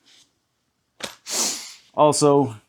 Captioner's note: sniffing